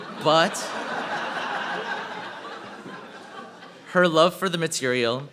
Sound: laughter

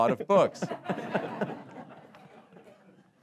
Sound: laughter

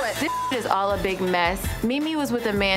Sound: beep

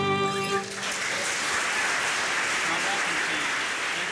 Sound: audience clapping

